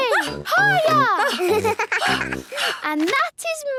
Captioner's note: giggles; panting